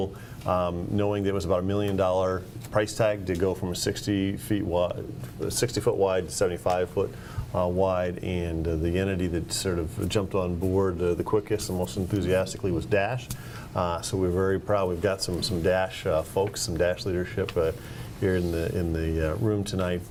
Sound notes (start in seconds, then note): none